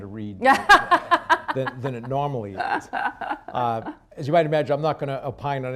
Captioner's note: laughs